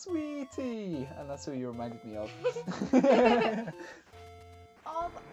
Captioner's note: laughter